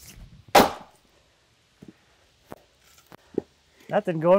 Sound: ax strikes

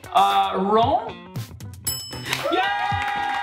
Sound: bell dings

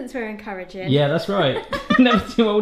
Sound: laughing

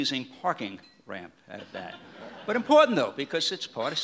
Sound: audience laughs

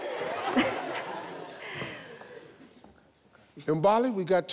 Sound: all laughing

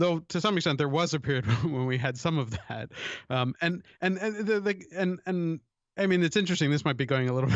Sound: chuckle

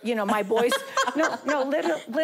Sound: laughing

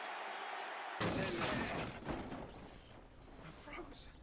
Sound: crashing

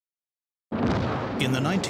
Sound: sound of explosion

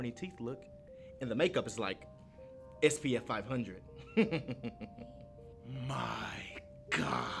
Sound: snickering

